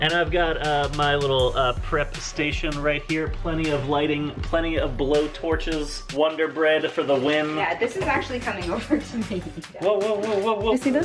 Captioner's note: chuckles